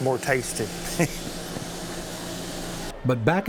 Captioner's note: chuckles